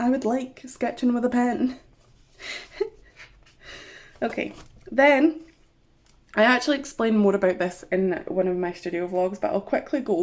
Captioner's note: giggles